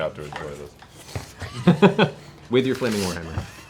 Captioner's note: laughs